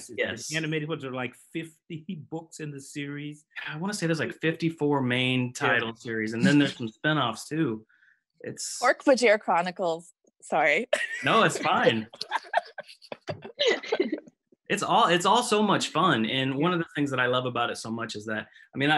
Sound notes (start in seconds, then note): 11.0 background laughs; 11.1 laughs